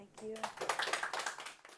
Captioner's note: audience clapping